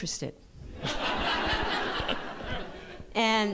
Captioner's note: laughter